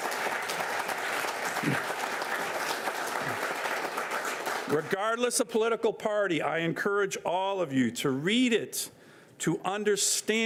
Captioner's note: applause